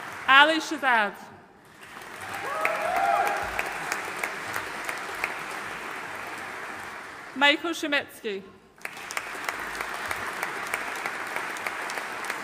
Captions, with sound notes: Ali Shezad. (AUDIENCE CHEERING AND APPLAUDING) Michael Shumitskiy. (AUDIENCE APPLAUDING)